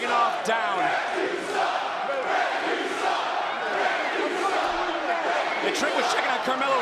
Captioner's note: crowd chants "ref you suck"